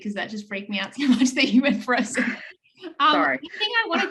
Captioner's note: laughs